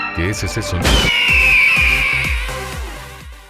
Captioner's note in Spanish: Sonidos de panico